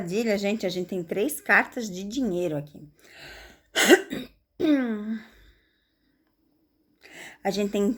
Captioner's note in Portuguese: tosse